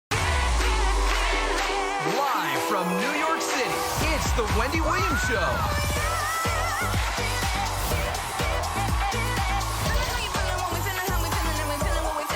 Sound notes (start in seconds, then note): 1.2 audience cheering; 1.2 energetic music